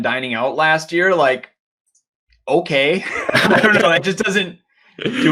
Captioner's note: chuckles